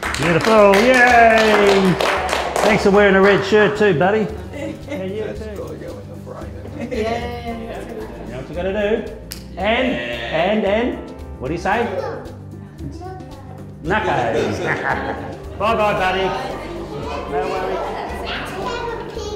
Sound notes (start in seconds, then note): 0.0 crowd applauding; 9.2 slaps hands